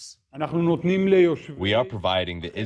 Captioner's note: through translator